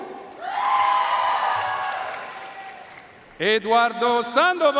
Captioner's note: audience cheering and applauding